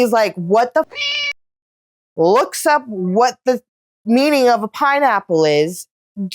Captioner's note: meow